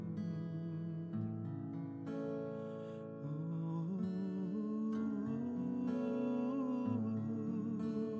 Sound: awed gasp

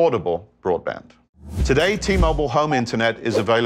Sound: graphics whooshing

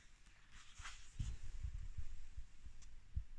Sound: pages rustling

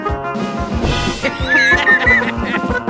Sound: laughter

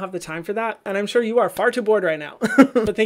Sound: laughs

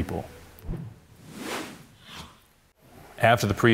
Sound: words swooshing

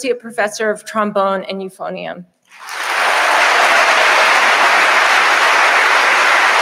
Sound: audience applauding

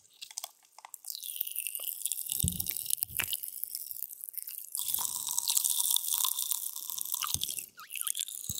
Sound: popping

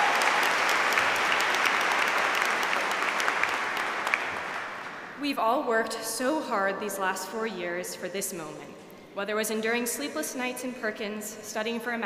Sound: applause

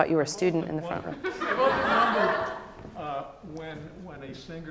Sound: audience laughs

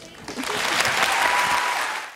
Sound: applause

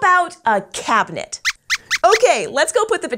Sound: squeaks squeaks

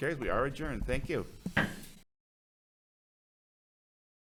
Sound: gavel bangs

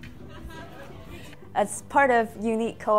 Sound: laughter

